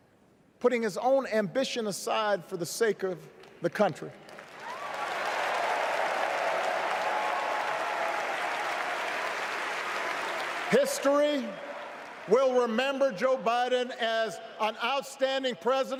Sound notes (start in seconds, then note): 8.9 cheers; 12.1 applause